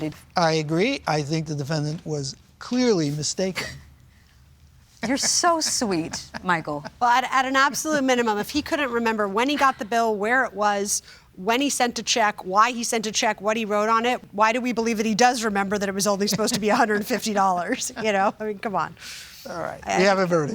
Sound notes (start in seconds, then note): 5.0 chuckles